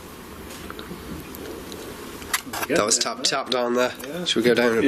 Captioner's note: soft tapping